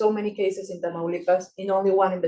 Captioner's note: speaking Spanish